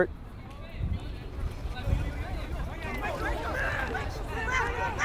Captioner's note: players shouting